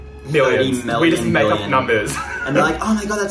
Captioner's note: laughs